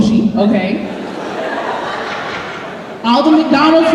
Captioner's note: laughter